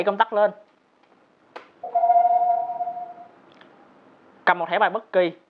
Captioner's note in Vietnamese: activation sound